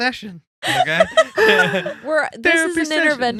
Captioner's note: laughing